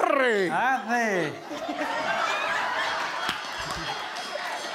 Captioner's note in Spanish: Público ríe